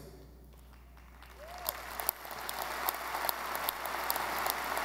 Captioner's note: audience applauding